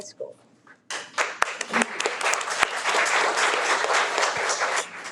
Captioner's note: audience clapping